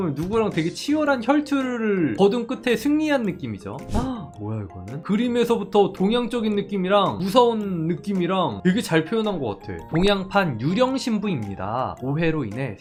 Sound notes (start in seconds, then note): 9.9 voiceover